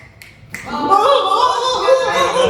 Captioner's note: snapping